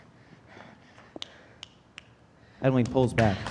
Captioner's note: fingers snapping